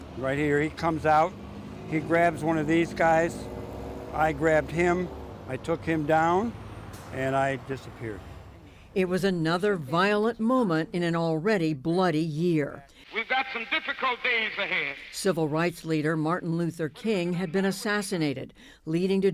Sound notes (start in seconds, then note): 9.6 voice-over; 15.8 voice-over